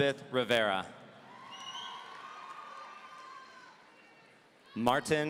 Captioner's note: audience cheering